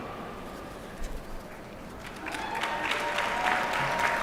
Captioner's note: applause